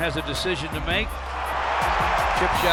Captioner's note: cheering